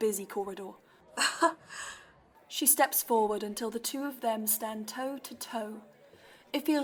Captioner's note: Mary laughs